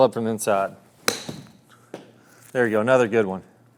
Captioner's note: golf club strikes ball